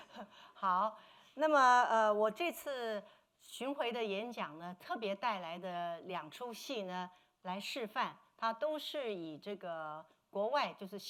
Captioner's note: speaking Mandarin